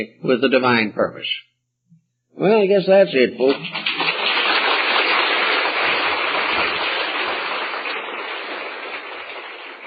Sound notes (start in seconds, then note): 3.4 applause